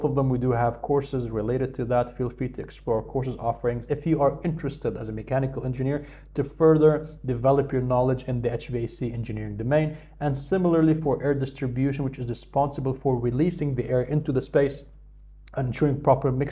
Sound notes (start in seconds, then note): 11.8 hvac